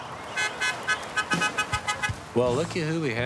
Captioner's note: car horn honking